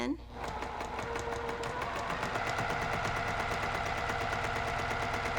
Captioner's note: sewing machine humming